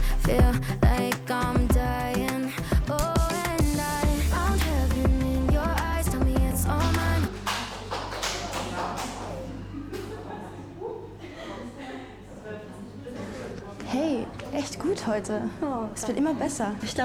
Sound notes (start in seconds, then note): 2.5 sigh of relief, Applause, clapping; 7.6 music stops